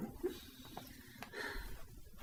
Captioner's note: adoring sigh